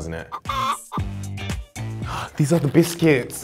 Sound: chicken clucks

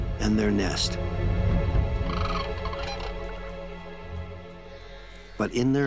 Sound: cranes calling

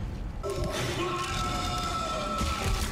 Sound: screams of panic and vicious screeching

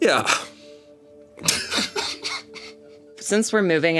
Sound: everyone laughs

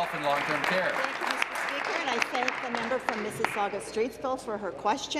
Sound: applause

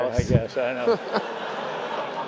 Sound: laugh

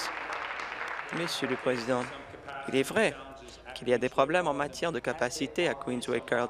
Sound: applause

